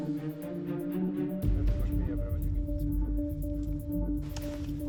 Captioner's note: man, dubbed in English; speaks Hungarian